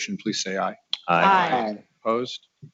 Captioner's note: multiple voices